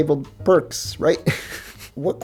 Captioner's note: laughter